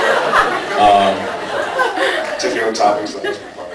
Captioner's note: laughs